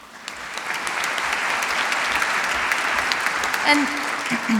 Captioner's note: applause